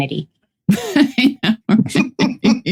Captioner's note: laughing